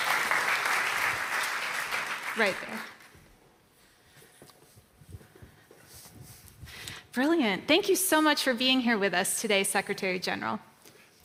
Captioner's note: applause